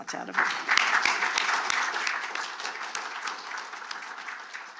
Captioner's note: audience clapping